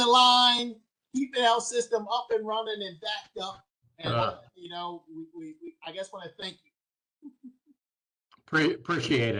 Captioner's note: laughter